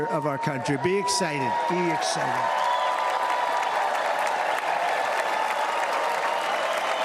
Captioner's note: cheers and applause